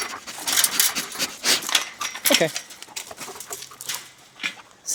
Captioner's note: chain link fence clangs lightly, dog pants and sniffs